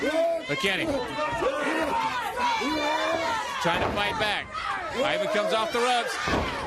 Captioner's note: crowd chatter